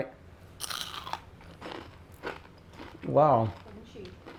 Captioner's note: crunching